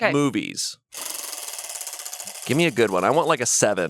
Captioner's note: wheel rattles